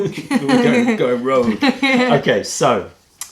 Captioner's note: laughter